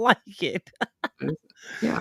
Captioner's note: laughter